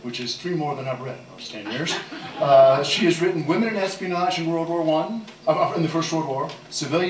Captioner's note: laughter